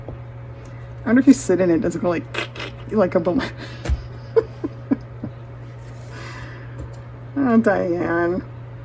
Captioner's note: laughter